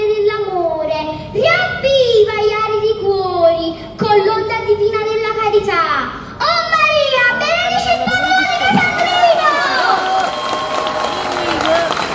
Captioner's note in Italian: Applauso